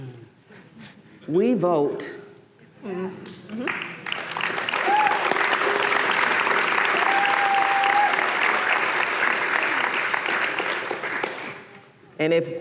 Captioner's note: applause